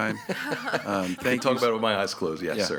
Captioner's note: group laughs